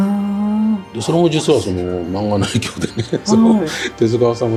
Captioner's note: laughs